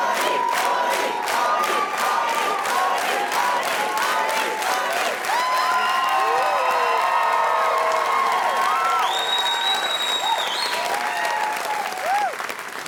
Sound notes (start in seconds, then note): 6.1 crowd cheering